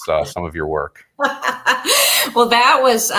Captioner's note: laughs